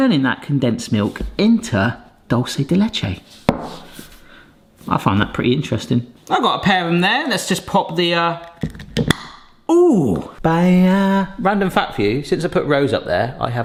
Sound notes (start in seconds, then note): 8.4 jar pops; 10.6 sings